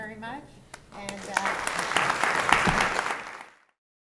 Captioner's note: applause